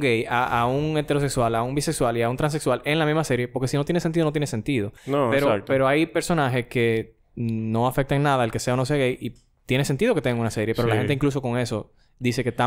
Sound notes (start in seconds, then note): none